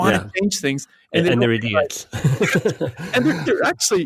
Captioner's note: laughs